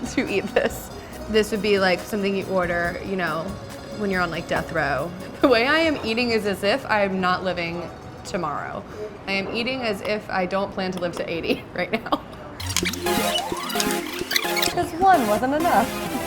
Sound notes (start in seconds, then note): 0.2 laughs; 12.6 laughs; 12.6 upbeat electronic music